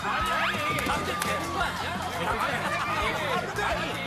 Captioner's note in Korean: 웃음 터진 멤버들